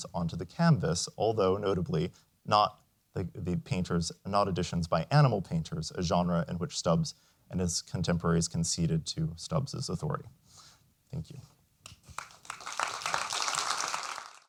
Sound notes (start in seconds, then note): 11.9 applause